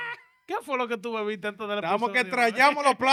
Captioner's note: speaking In Foreign Language